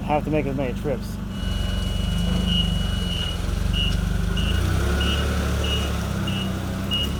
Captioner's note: fork truck beeping